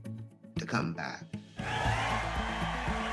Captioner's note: cheering and applause